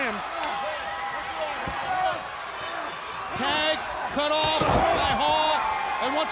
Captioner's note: hands thudding; body thudding